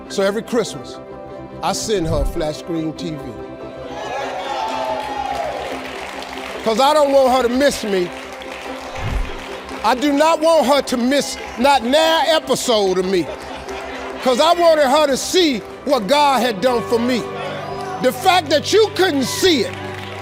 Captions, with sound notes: So every Christmas, I send her flat screen TV. (audience cheers) Because I don't want her to miss me. I do not want her to miss not nary episode of me 'cause I wanted her to see what God had done for me. The fact that you couldn't see it,